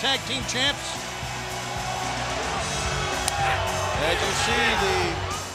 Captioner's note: crowd cheering